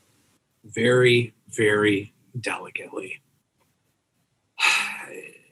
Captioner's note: sighs